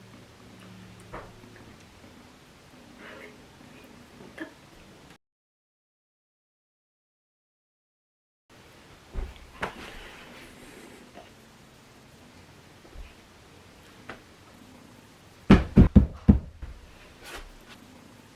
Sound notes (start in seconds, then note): 15.5 stamping on the ground